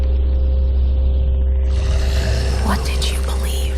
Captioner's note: inhuman growling